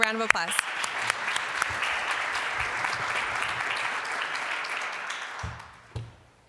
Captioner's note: applause